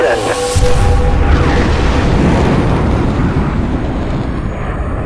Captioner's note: explosion sounds